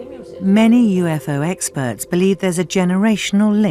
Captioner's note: voiceover